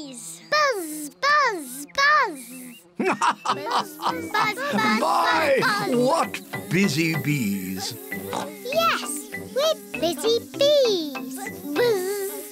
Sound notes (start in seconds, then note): 2.9 laughs; 7.4 oinks